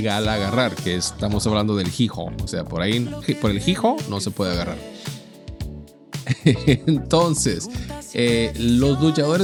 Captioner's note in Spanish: risas